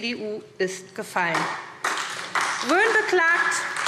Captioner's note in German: Beifall SPD und DIE LINKE